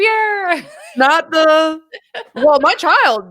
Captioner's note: laughs